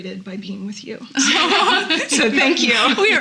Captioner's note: laughing